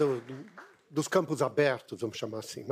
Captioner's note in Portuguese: aplausos